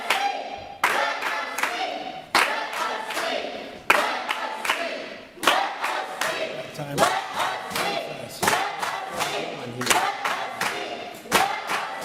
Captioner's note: audience chanting let us speak